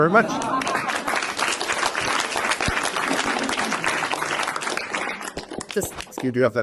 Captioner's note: applause